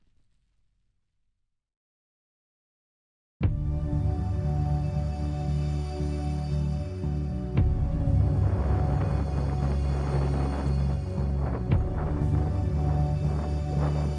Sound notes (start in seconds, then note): 3.4 suspenseful music; 3.5 wind blowing